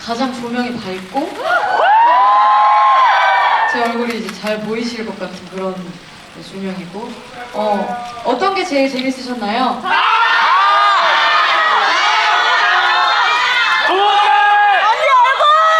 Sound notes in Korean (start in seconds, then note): 9.8 환호